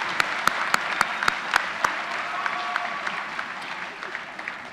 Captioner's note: applause